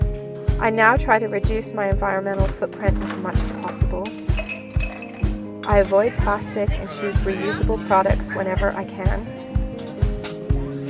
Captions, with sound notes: I now try to reduce my environmental footprint as much as possible. (clinking) I avoid plastic and choose reusable products whenever I can.